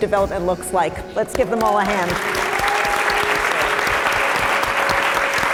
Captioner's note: applause